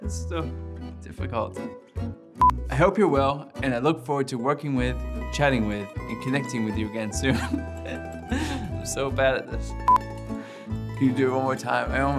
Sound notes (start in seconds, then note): 7.2 chuckles